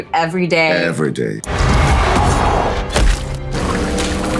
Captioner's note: harpoon thudding; creature roaring